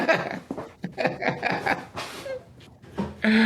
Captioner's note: laughs